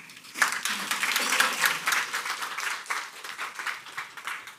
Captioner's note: audience applauds